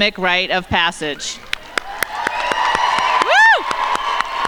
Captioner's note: crowd shouting & applauding